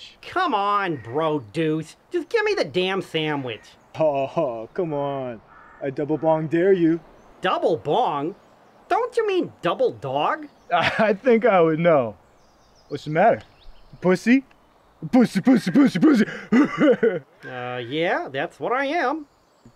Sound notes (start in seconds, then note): 15.6 laughter